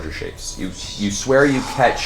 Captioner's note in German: flüstert